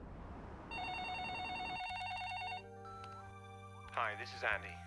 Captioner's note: phone ringing